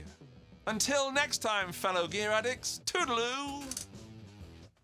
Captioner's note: camera shutter clicks